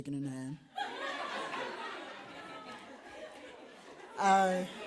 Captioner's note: audience laughs